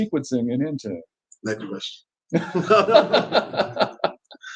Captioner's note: laughs